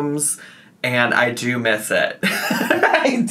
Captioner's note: laughs